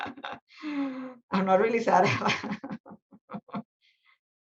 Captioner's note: laughs; laughs